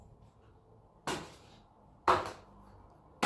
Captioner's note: slaps